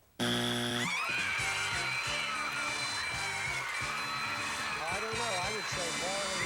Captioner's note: audience applauding